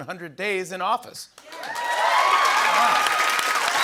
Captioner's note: cheering and applause